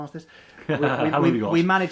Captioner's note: laughs